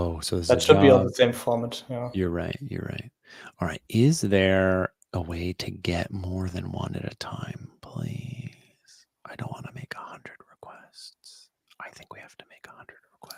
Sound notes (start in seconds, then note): 8.7 whispering